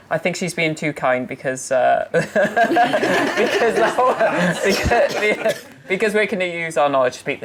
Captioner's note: laughing